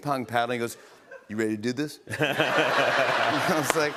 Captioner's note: laughter